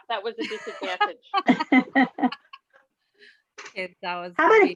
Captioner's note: loud laughs